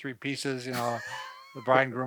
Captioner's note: laughs